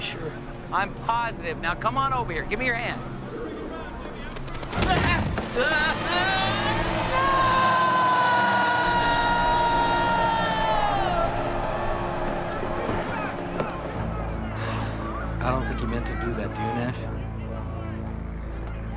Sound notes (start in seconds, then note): 6.7 Joel screaming